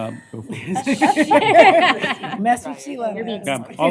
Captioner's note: laughter